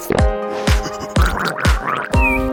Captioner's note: gargling; monkey noises